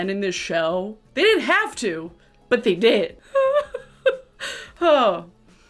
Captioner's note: laughing